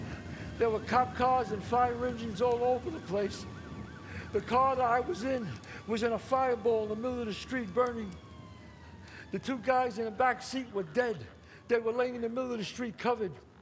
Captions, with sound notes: there were cop cars and fire engines all over the place. [siren blares] The car that I was in was in a fireball in the middle of the street burning. The two guys in the back seat were dead. They were laying in the middle of the street covered.